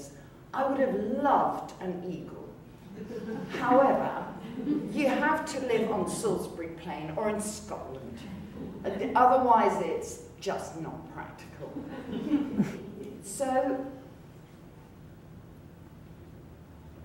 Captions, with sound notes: I would have LOVED an Eagle [audience laughter] However, you have to live on Salisbury Plain or in Scotland. Otherwise it's just not practical. [audience laughter] So,